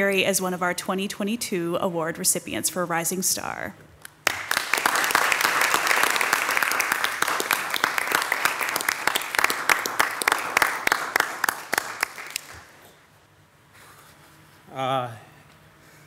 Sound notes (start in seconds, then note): 4.1 audience clapping